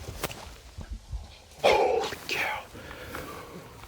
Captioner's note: whispering